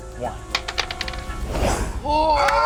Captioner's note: rolls dice